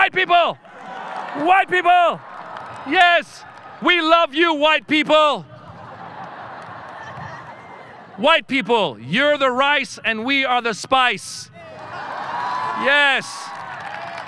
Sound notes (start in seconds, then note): 5.6 audience laughing; 11.6 audience cheering